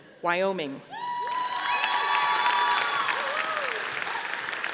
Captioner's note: audience applauding